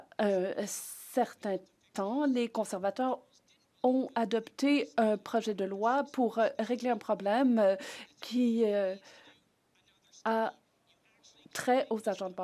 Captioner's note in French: voix de l'interprète